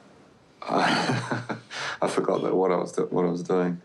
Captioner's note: laughs